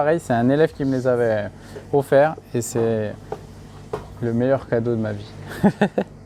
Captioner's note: laughs